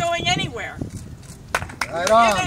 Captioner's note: applause